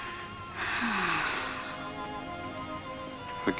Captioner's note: Ellen sighs